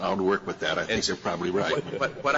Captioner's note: laughter